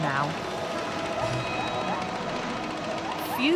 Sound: motoboat engine running

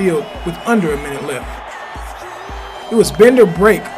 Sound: crowd cheering

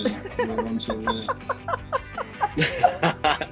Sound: laughing

